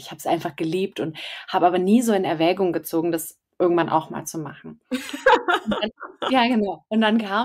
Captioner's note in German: lachen